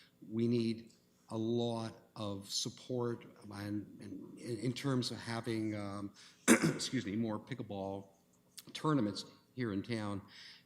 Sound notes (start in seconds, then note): 6.4 throat clearing